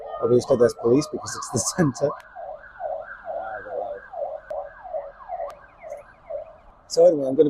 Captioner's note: sirens